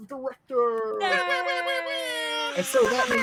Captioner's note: group cheers